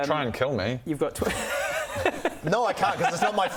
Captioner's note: unsupportive giggles